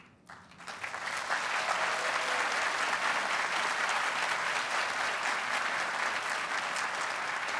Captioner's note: audience applauds